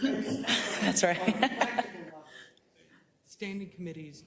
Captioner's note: laugh